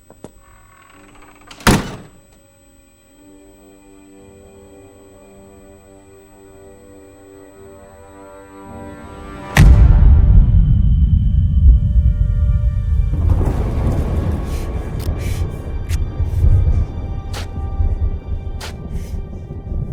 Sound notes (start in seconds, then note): 1.0 door thumps; 3.7 eerie music; 14.0 thunder booms